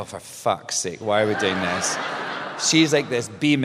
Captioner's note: laughter